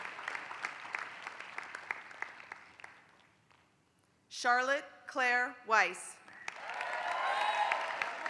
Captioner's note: applause; applause